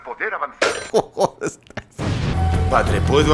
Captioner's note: laughs